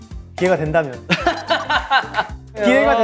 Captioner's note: laughing